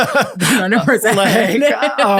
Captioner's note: all laughing